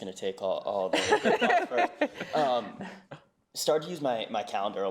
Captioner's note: laugh